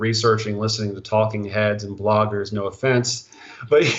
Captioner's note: laughing